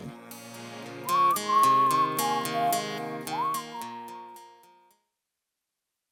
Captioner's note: whistling